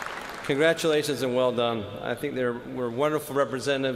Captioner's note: cheers and applause